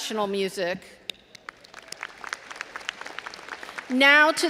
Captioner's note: all applauding